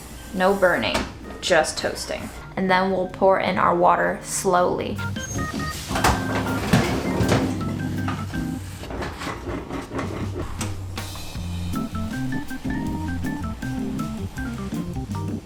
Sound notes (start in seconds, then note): 6.0 classical music; 8.4 scraping sound; 11.7 classical music